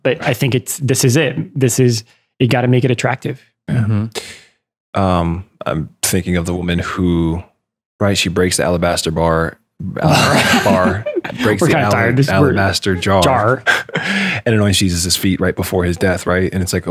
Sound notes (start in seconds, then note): 8.4 stutters; 10.2 laughter